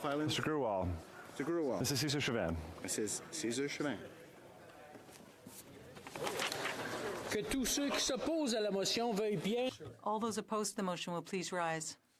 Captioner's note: speaking in French